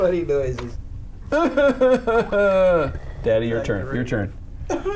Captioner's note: making crying sound; dad makes crying sound